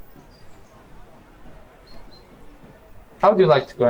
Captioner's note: distant crowd murmuring